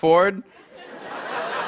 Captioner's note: laughter